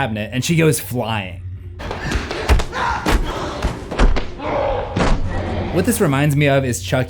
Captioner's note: fighting Sounds